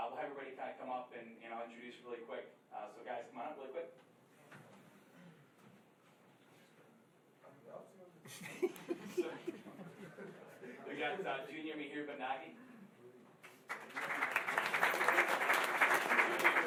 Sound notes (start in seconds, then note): 7.0 chattering; 13.4 applause